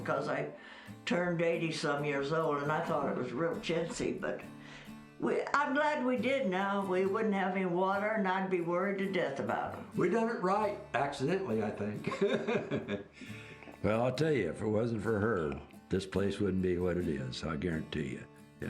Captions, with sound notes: 'cause I turned 80 some years old and I thought it was real chintzy, but, I'm glad we did now, we wouldn't have any water and I'd be worried to death about 'em. - We'd done it right, accidentally, I think. (laughs) Well I'll tell you, if it wasn't for her, this place wouldn't be what it is, I guarantee you.